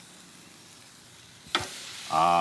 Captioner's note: steak sizzles